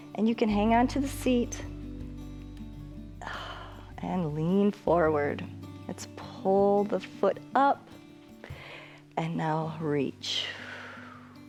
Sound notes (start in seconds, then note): 8.4 exhales